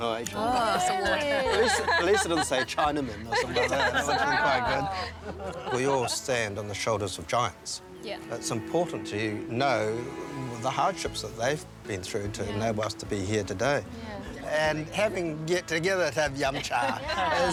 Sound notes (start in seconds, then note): 3.9 laughs; 7.6 laughter